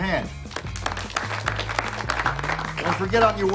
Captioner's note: applause